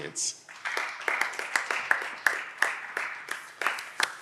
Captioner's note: audience applause